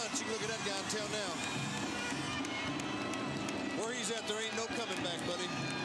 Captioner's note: applause